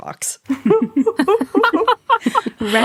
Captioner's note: laughing